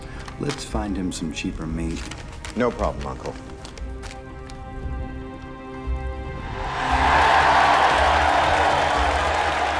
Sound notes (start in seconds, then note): 6.4 crowd cheering